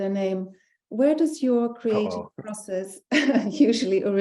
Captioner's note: laughing